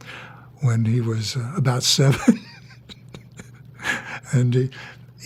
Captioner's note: laughs